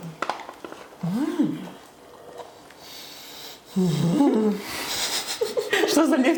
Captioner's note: untranslatable sounds of satisfaction